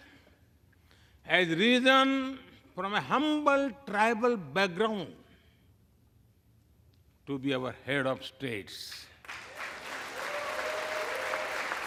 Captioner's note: applause